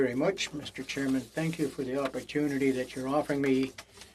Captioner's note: speaking French